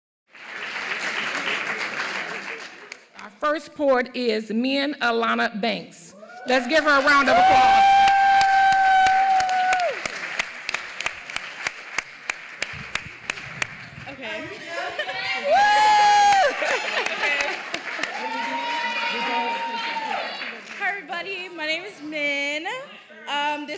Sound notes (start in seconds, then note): 0.2 applause; 7.7 applause; 8.1 crowd cheering